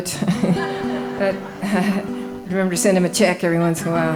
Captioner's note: laughing